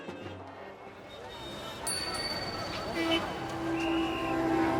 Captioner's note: traffic noise